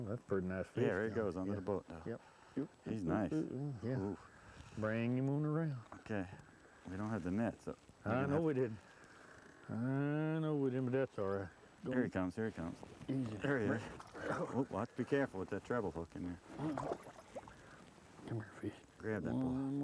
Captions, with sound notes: woo that's a pretty nice fish. there he goes under the boat now..yep he is nice woo. bring him around. Ok I don't have the net so... I know we didn't I know we didn't oh that's alright here he comes, here he comes. easy. there he is. be careful. with that travel treble hook in there. [splash] come here fish. grab that boy